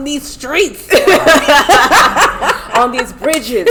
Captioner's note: laughter